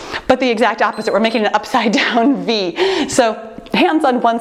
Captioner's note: timer beeps